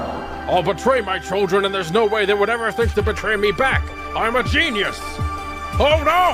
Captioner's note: Gozaburo Kaiba voice